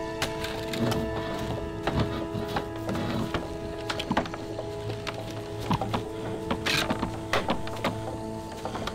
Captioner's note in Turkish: Kütük yontma sesleri